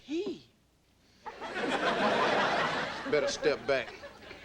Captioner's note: audience laughing